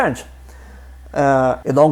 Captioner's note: speaking in French